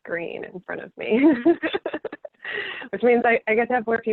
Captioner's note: laughing